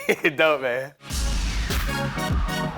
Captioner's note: laughs